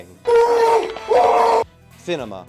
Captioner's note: screaming with gun in mouth